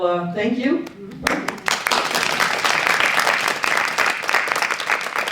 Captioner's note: audience applauding